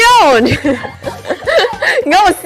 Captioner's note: burst out laughing